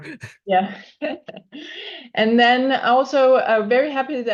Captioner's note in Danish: chuckles